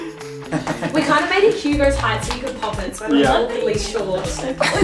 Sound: chattering

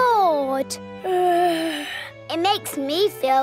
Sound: yawns

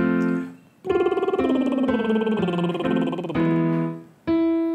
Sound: lips trilling

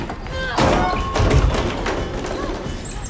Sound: thudding

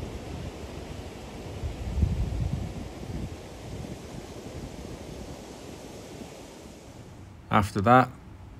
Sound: river sound

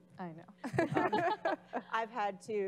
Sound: laughing

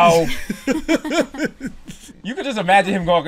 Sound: laughter

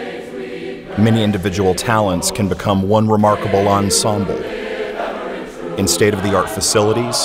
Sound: chorus singing; voiceover

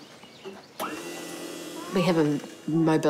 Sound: ramp whirrs

